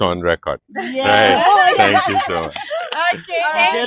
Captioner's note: laughing heavily